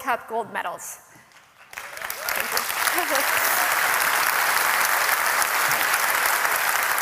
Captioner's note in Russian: Аплодисменты